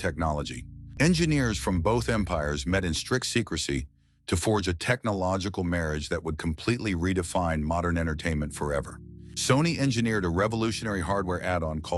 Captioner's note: SFX: subtle digital hum